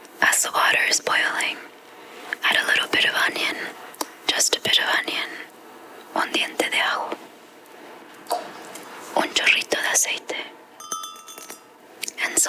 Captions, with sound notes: As the water is boiling, add a little bit of onion. Just a bit of onion. (speaks Spanish) (speaks Spanish) (glass tinkling)